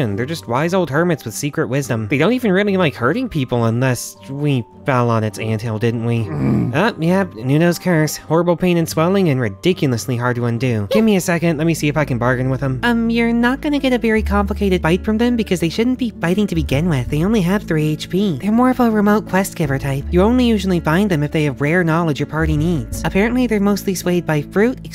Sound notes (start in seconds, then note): 6.2 pained groan; 10.9 squeaks in surprise